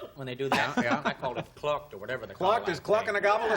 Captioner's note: gobbles